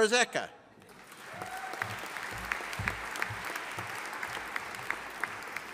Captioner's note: audience applauding